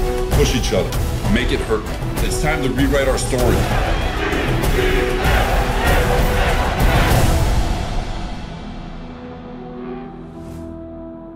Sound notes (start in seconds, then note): 3.3 players chanting; 6.9 music fades